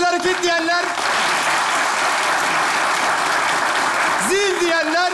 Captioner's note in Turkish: Alkış sesleri